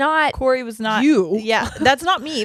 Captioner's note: chuckles